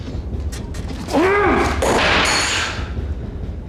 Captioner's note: Harry growls